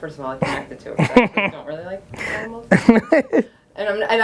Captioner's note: Gary's chuckling drowns out speaking